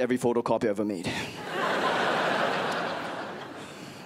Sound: crowd laughs

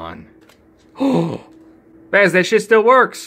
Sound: gasps

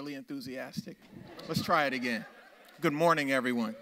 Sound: audience laughs

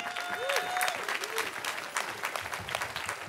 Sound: cheering

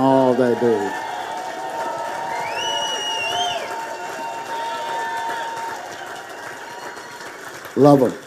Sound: congregation applauding

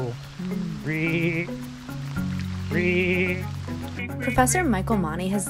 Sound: imitating frogs

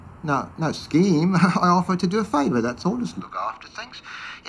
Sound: chuckles

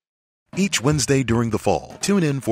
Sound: voiceover

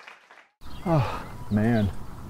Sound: sigh

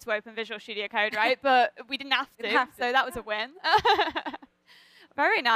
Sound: laughter

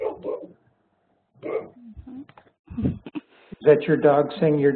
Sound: dog barking

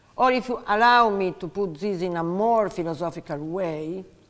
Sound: none

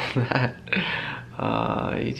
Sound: chuckling

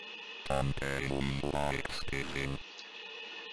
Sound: computer mispronounces it

